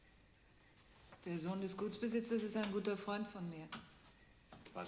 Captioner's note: speaking german